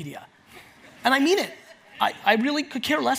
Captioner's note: audience laughs